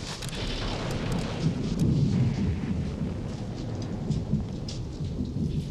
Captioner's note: storm rumbling distantly